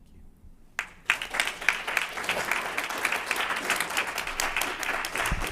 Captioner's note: applause